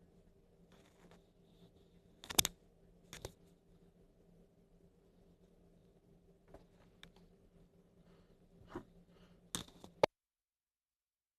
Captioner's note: no audio